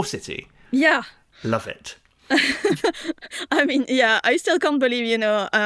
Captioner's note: laughs